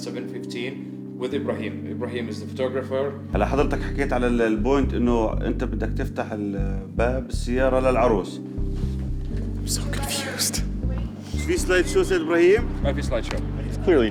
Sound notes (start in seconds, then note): 3.6 in foreign language; 9.9 whispering; 11.8 in foreign language